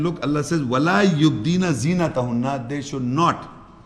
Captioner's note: Arabic